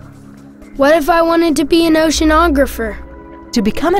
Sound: voiceover

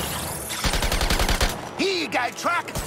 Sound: gems chiming; guns firing

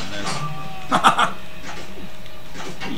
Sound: laughing

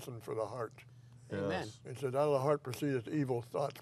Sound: voiceover

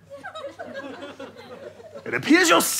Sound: audience laughter

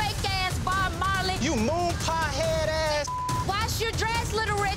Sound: beep

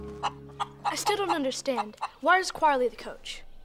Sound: hen clucking

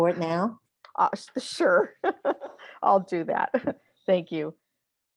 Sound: laughs

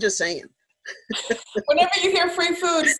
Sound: laughing

